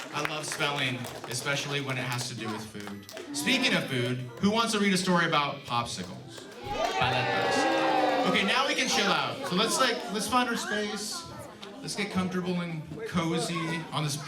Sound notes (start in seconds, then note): 6.4 cheers